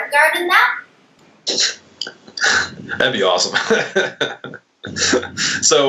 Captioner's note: laughs